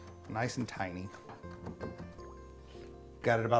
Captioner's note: crunching